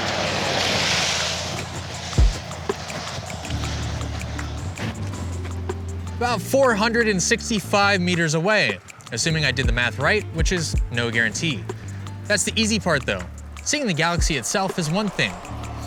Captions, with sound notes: [cars whooshing by on a wet road] [clothes rustling from brisk jogging] → About 465 meters away, assuming I did the math right, which is no guarantee. That's the easy part though, seeing the galaxy itself is one thing,